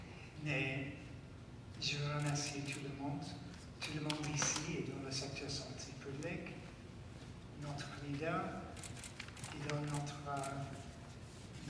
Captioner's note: speaking French